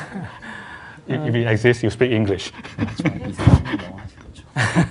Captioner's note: Sunim Laughter